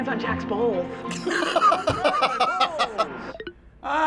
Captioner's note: laughs